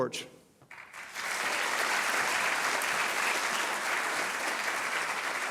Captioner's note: audience applauding